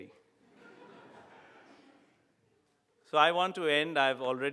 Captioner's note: audience laughing